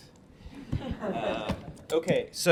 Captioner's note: laughter